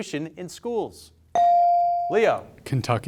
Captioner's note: bell sounding